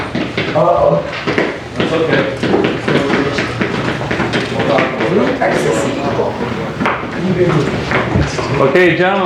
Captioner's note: indistinct chatter